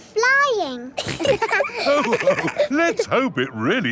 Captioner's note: all laughing